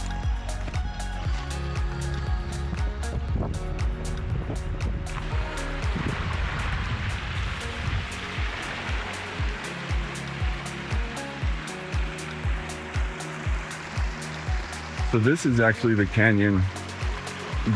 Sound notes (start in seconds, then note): 0.0 soft music; 7.4 soft music; 9.8 wind blowing